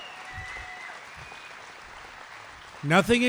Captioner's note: applause